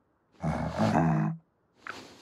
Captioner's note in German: Leises Brummen